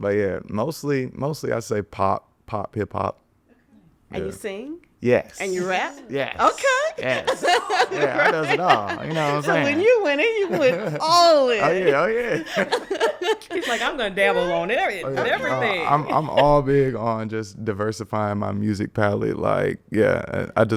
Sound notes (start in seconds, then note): 7.7 laughs; 12.7 everyone laughing; 15.2 podcasters chuckling